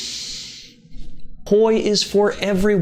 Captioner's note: inhales